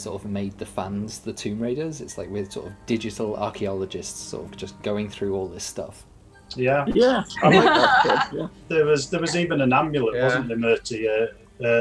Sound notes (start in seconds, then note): 6.6 agreements and laughing